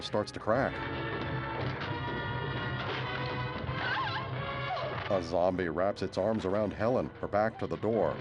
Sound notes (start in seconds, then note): 3.7 screams